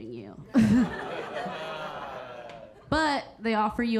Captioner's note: audience laughing